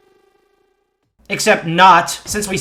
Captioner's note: agonizing silence